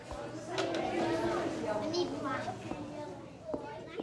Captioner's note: indistinct chatter